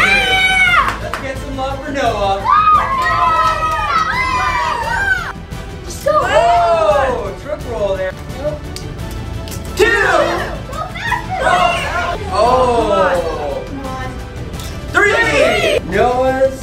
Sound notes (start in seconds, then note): 2.3 kids cheering